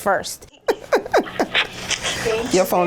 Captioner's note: laughter